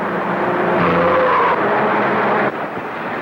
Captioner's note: tires screech